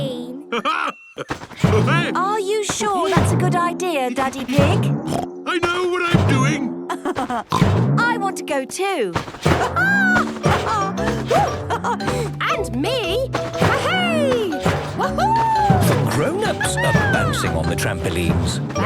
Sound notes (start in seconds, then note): 5.0 snorts; 6.8 laughs